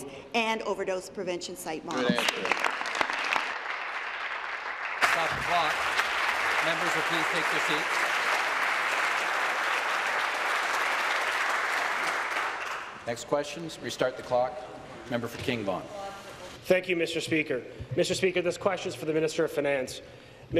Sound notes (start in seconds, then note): 8.8 applause